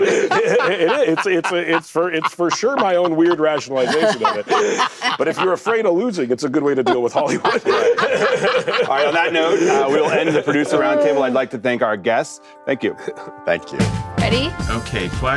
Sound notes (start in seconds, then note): 0.0 laughter